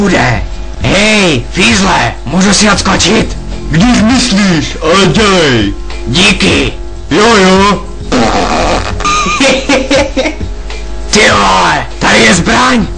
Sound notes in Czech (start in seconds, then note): 8.0 Zvuk prdu; 8.1 Směje se